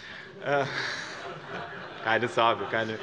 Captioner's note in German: Heiterkeit bei dem BÜNDNIS 90/DIE GRÜNEN